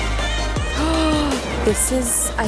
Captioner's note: gasping